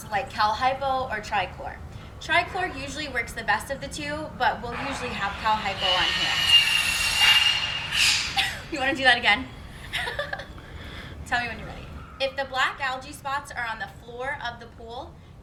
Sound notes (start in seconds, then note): 4.6 loud Saw Noise; 8.2 laughing